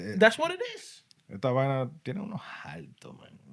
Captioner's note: speaking Spanish